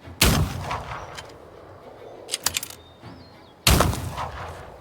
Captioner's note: gunshots blasting